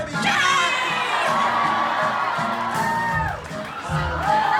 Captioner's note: audience cheers